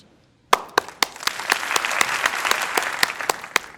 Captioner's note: crowd applauding